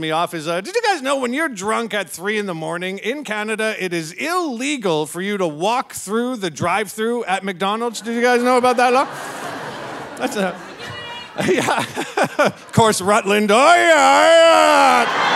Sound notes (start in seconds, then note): 7.9 audience laughing; 12.1 laughs